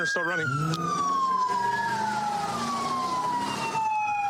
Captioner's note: engine revving